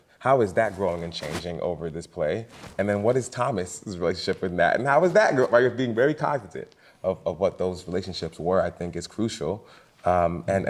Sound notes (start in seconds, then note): none